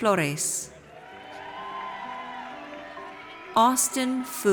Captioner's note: audience cheers